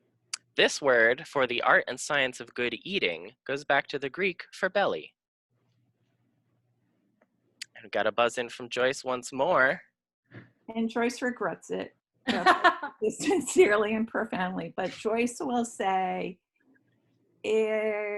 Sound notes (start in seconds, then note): 11.8 laughing